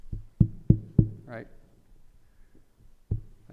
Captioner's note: microphone thumping